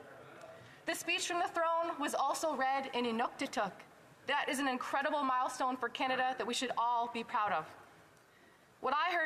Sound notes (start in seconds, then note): 0.0 speaking alternate language; 0.5 speaking indigenous language